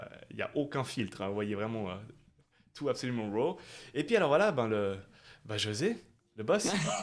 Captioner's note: laughs